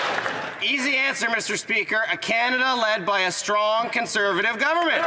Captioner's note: some Applause